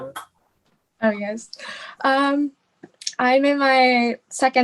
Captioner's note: laughing